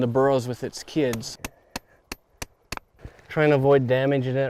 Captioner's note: chiseling